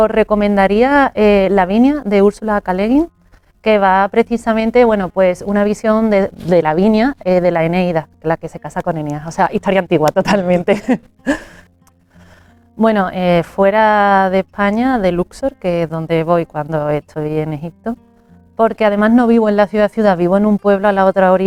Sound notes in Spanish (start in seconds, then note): 10.2 risas; 10.7 carraspeo